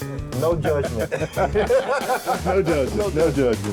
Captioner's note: both laughing